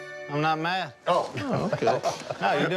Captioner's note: laughs